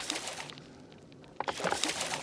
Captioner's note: splash